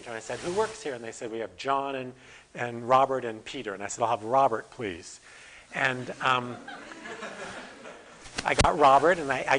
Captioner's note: audience: Laughter